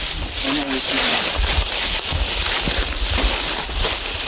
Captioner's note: leaves crunching